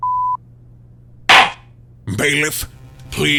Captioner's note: gavel slams!